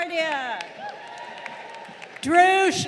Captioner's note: crowd cheering